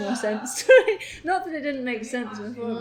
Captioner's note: laughs